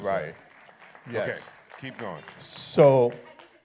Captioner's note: appluse